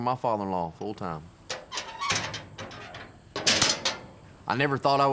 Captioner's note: clanging, locking sound